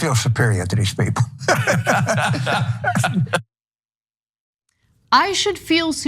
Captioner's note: laugh